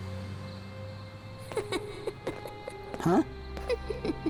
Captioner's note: ominous Laughter; more Ominous Laughter